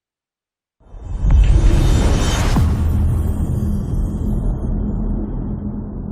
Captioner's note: dramatic sound